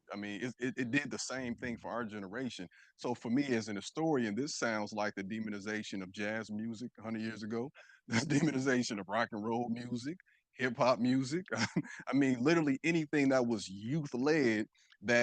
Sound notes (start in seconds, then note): 11.3 chuckles